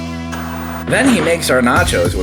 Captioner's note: TV static